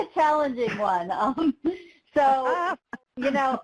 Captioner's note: laughs